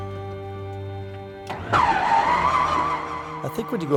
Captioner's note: engine starting